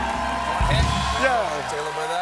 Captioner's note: cheers